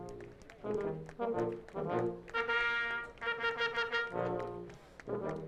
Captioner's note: audience applauding